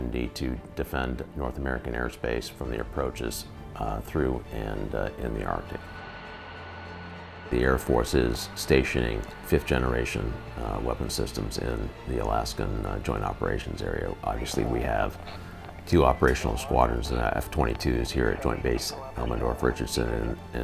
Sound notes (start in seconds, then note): 5.6 plane engine revving